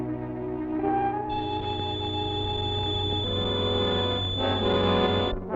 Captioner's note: high-pitched keening